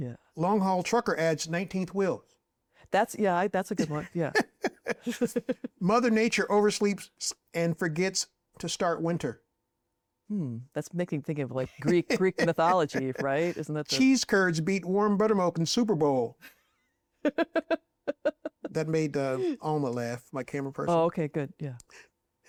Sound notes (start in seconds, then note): 3.8 both laugh; 17.2 laughs